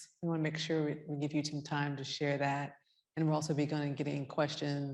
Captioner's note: none